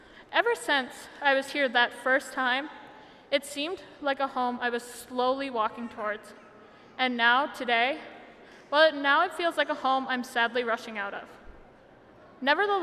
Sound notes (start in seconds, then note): none